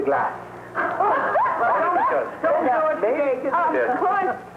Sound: laughing

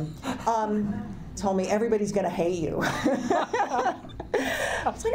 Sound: laughs

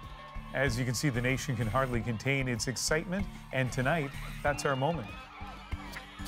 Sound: crowd noise

